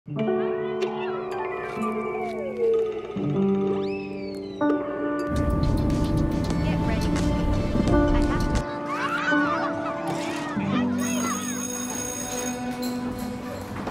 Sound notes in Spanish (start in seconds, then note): 0.2 música suave; 0.4 sonido de televisión; 0.5 niños gritando; 5.8 voces del teléfono; 8.6 niños gritando; 10.9 campana sonando